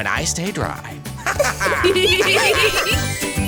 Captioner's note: laughter